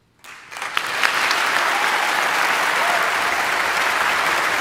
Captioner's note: audience applauding